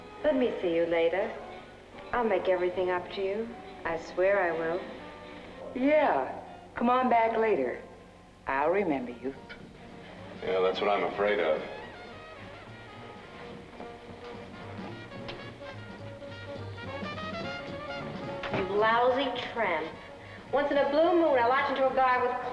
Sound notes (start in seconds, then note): 13.2 faint jazz music; 18.0 door closes